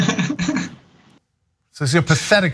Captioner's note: laugh